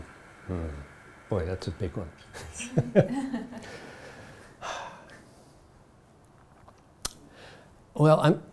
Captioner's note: chuckles then sighs